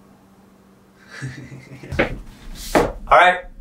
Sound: laughs

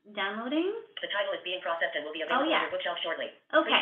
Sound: VoiceOver voice

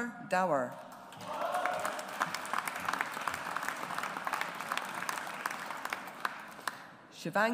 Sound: audience applauds

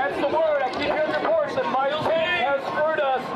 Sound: sounds of the crowd

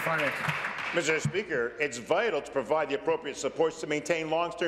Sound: applause

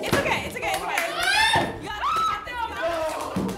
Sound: shrieking; squealing

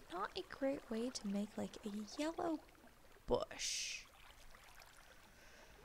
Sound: none

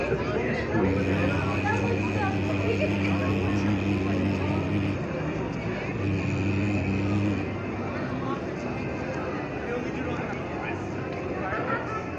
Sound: humming/Finger snap

